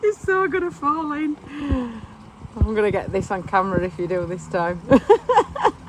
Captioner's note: laughing